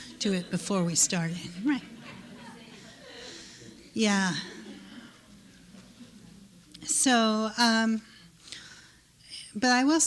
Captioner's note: laughter